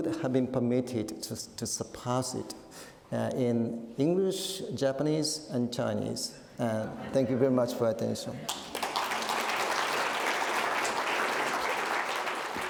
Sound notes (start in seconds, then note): 8.4 audience applauding